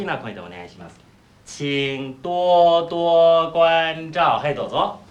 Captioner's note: speaking Chinese